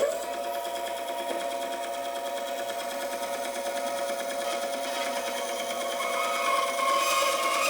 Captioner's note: saw cutting wood